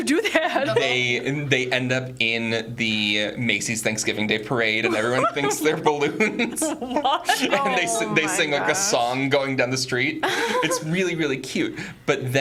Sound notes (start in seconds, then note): 4.8 laughing